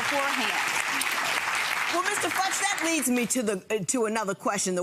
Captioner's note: clapping